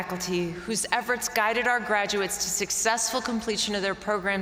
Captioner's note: none